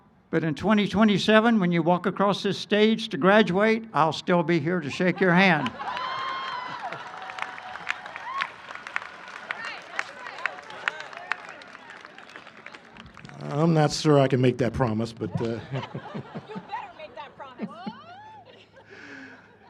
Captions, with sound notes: but in 2027, when you walk across this stage to graduate, I'll still be here to shake your hand. [ Cheering and applause ] >> I'm not sure I can make that promise, but . . . [laughter]. >> You better make that promise.